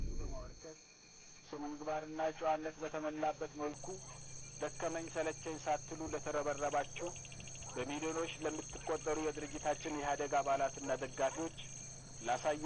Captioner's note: playing TV sound on background